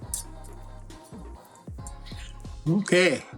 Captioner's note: sizzling